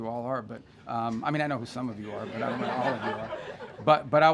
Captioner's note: laughter